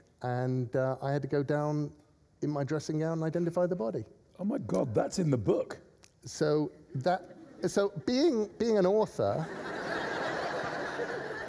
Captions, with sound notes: ''and I had to go down in my dressing gown and identify the body.' – Oh, my God, that's in the book! – So that... – (LAUGHTER) – So, being an author...